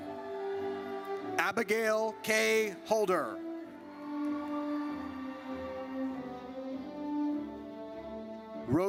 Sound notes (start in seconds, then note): 3.9 audience cheers